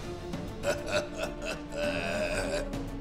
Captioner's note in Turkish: Alıncak gülüyor